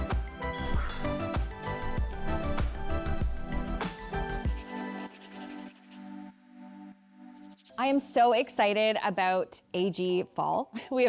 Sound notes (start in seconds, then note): 0.0 upbeat music; 4.4 pencil scratches